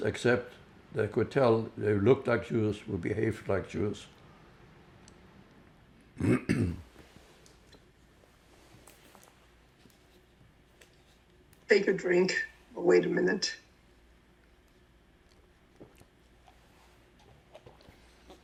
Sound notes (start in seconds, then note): 6.1 clears throat; 13.3 drinking; 13.7 pauses 11 seconds